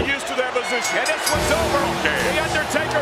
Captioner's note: bell rings